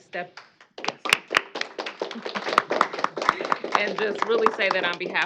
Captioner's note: applause